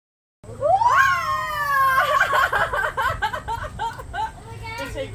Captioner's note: and still more cheering